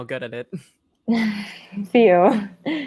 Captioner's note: giggles softly